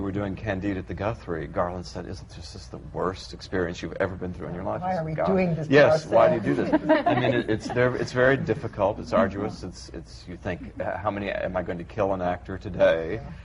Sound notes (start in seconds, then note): 6.4 laughter